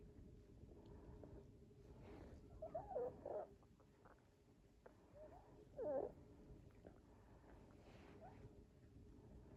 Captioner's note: weird squeaky grooming sounds